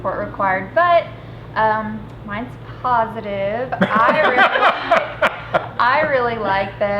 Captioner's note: everyone laughing